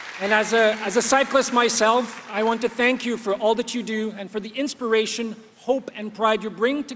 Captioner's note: applause